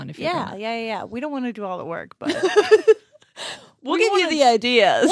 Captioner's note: laughs